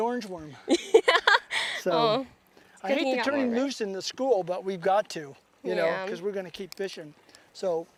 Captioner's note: laughter